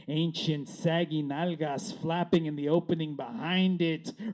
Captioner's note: none